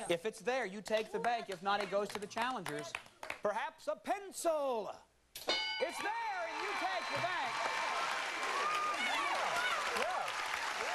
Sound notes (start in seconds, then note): 5.4 bell dinging; 8.1 crowd cheers